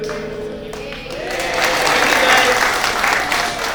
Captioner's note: applauds